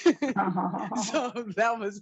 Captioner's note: panelists laugh